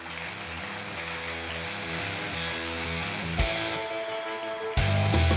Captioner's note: audience applauds